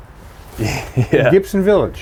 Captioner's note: chuckles